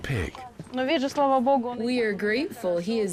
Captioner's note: speaking in foreign language